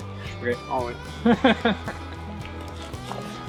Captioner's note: laughing